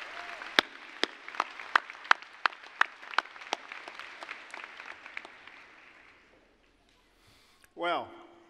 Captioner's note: applause